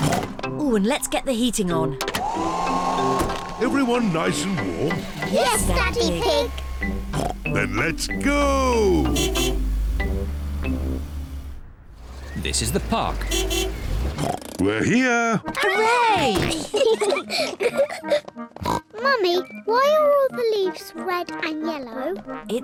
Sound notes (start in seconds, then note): 2.1 heater whirrs; 8.2 car horn honks